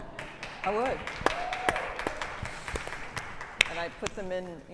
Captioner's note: applause